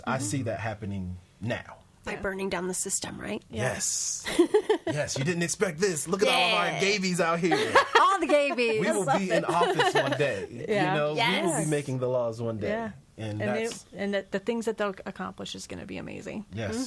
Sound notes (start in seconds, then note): 8.9 all laughing